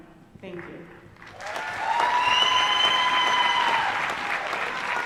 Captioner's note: applause